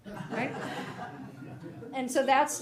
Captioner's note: attendees laughing